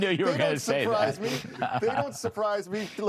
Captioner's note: laughter